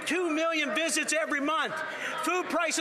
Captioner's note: applause